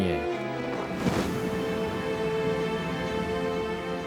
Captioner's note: wind blowing